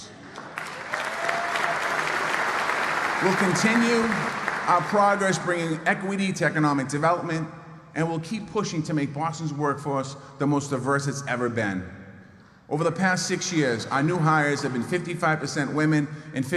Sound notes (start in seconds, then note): 3.6 applause